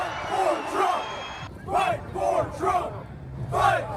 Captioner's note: crowd chanting